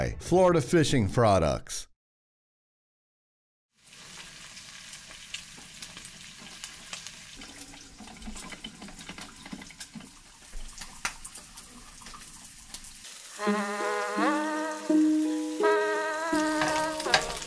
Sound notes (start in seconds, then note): 3.9 skillet sizzling; 13.3 relaxed music